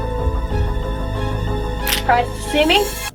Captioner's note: gun cocks